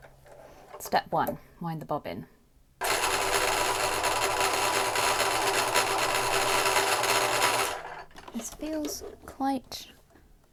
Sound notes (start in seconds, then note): 2.8 whirring of bobbin winder